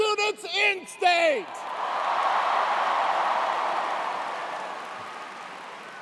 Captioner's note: cheers and applause